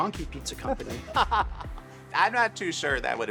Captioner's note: laughter